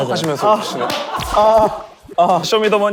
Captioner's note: phahaha